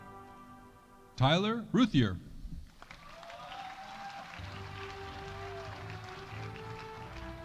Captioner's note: audience applauding